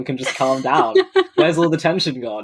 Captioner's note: laughs